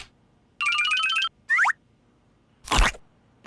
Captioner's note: munching